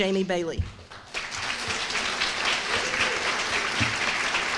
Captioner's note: applause